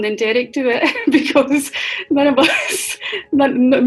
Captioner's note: laughing